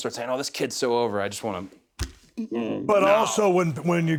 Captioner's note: grunts